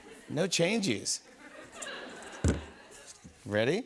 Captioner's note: laughter